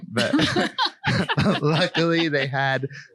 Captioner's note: all laugh